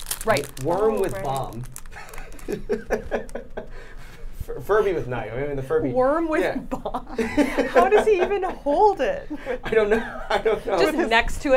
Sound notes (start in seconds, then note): 1.9 laughing